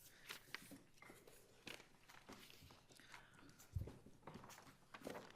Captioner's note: paper shuffling